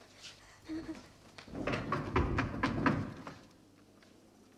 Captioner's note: knocking